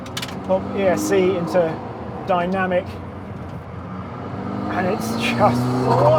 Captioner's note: engine revs